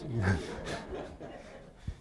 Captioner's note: laughter